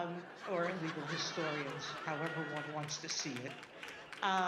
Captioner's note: audience laughing